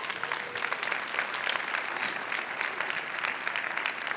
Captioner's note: applause